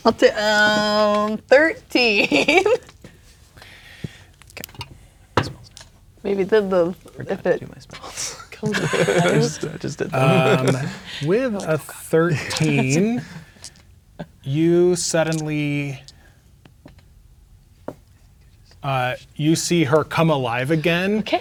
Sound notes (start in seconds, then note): 2.0 laughs; 4.5 murmuring quietly; 7.4 murmuring quietly; 8.2 laughing; 8.7 murmuring quietly; 11.9 laughing and whispering; 20.3 whispering